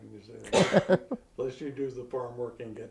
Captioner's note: chuckles